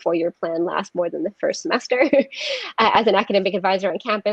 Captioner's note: laughs